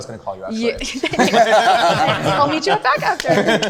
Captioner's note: group laughing